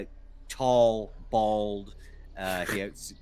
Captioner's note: Cornette chuckles